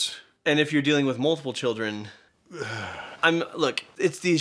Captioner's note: sigh